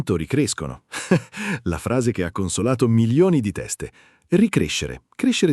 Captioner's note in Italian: Haha